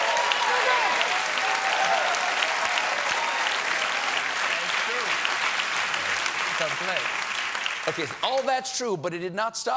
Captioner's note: applause